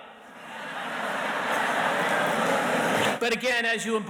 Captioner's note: audience laughs